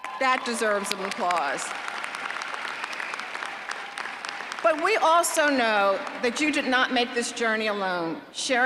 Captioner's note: applause